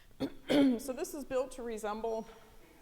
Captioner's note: clearing throat